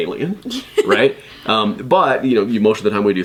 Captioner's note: laughs